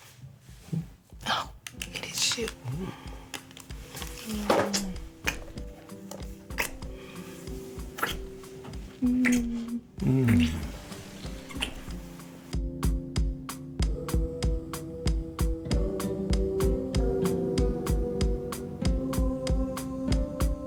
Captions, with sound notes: Hmm. Oh, it is you. [kissing sounds] [moaning sounds] [Outro music playing]